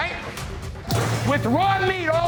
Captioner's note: bowl clattering